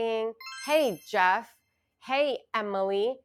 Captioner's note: chimes ringing